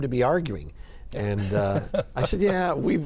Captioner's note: laughs